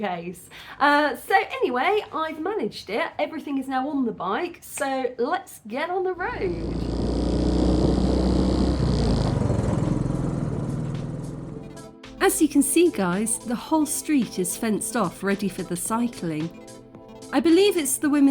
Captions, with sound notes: case. So, anyway, I've managed it. Everything is now on the bike. So, let's get on the road. [bike engine] [upbeat music] As you can see guys, the whole street is fenced off ready for the cycling. I believe it's the